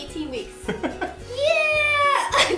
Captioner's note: laughing